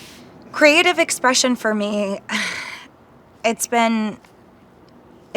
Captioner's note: sighs